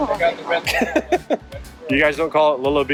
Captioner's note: laughing